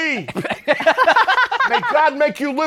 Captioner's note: laughter